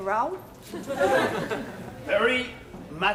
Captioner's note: audience laughing